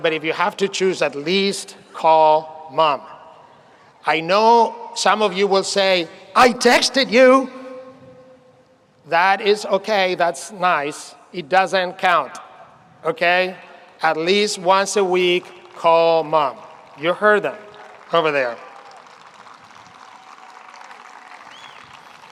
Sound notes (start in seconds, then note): 18.5 audience applauds